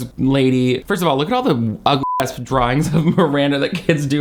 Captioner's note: beep